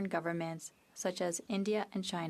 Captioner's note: speaking French